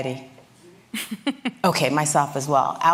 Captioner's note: laughter